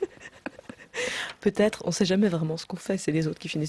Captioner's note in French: rires